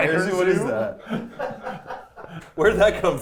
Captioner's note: people laughing